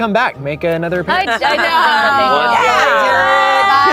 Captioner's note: everyone exclaims